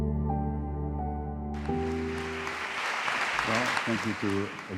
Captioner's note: applause